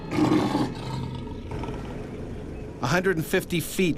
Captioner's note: growling